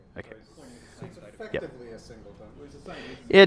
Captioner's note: voiceover